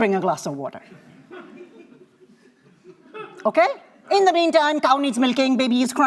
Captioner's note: laughter